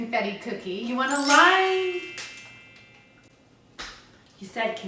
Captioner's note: magical sound